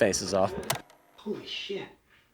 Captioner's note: graphic clicks